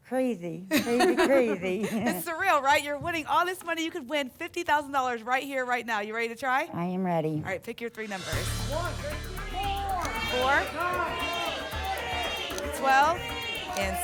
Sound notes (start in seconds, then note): 11.4 audience shouting numbers